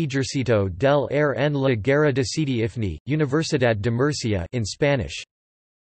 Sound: in Spanish

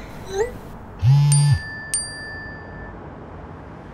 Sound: phone vibrating

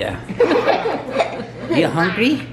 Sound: laughter

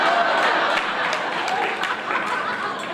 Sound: laughter

